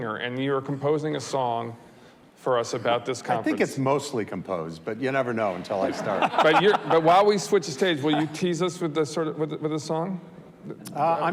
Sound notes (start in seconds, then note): 5.8 audience laughs